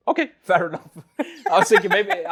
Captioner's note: laughs